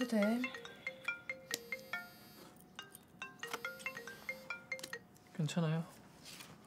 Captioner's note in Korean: 핸드폰 벨소리